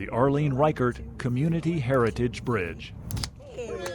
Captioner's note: crowd cheering